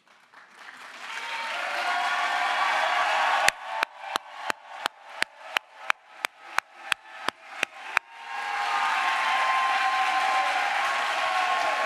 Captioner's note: crowd applause